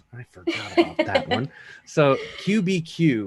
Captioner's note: laughing